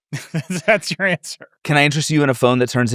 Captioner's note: chuckles